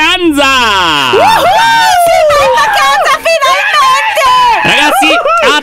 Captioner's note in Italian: tutti esultano